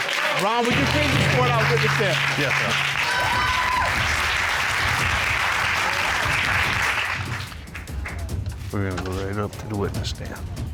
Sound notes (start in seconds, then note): 4.1 audience cheering